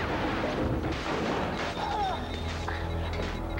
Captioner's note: Doc screams